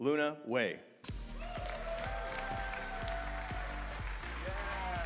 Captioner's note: audience cheering